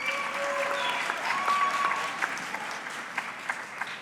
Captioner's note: audience clapping